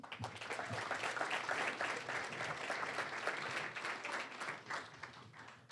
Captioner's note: applause